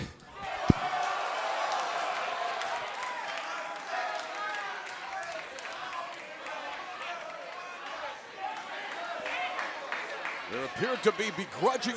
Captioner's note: crowd cheering